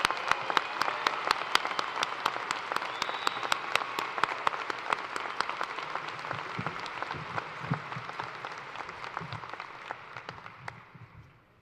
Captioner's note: cheers and applause